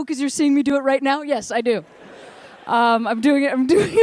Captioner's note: laughter